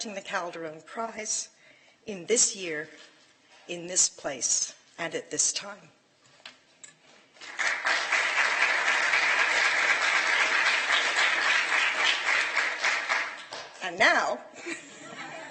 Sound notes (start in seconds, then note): 7.4 applause